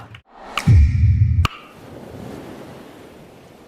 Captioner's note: humming boom; waves whispering